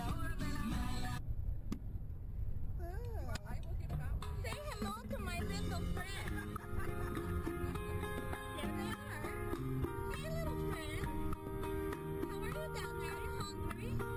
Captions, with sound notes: I will get em' out for you. Say hello to my little friends. (laughter) There they are. Hey little friends! How are you down there? Are you hungry?